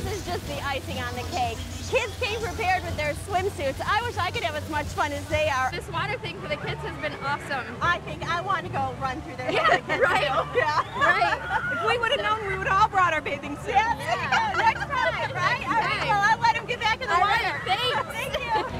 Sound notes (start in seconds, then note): 9.4 laughter; 13.9 laughter